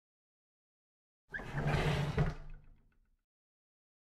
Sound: sound of drawer closing

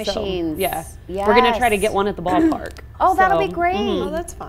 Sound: none

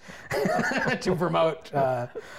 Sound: laughs

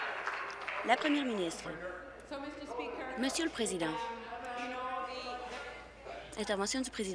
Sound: applause

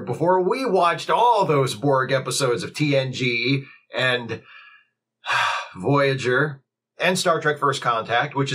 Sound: sigh

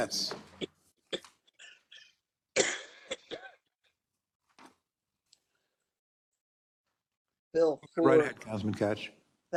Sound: cough

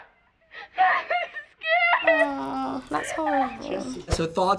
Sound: sobbing

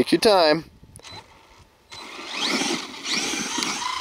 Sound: engine roars

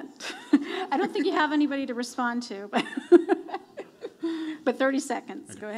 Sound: laughs

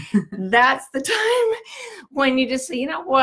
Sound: laughs

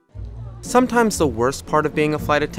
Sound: voiceover

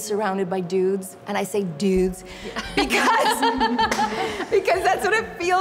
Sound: laughing

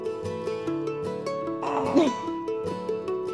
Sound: baby cooing; mom laughing

